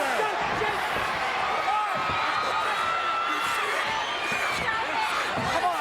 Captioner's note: crowd yelling